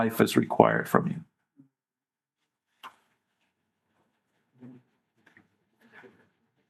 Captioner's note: silence